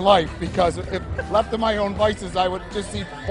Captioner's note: laughter